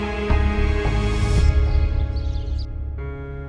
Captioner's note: birds chirping